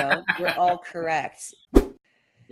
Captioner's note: laughs; whoosh